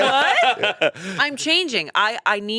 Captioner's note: all laughing